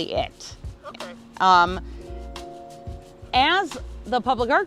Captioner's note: male Voice